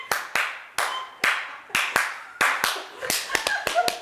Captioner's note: clapping rhythmically, French-style